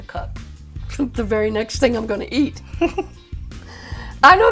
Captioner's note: giggles